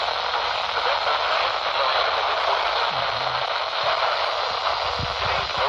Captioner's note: staticky